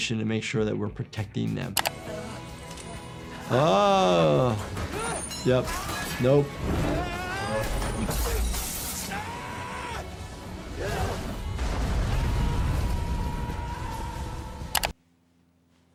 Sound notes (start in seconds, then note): 9.0 people screaming